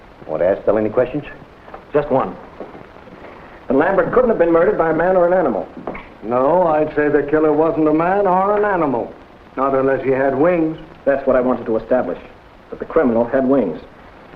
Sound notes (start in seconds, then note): none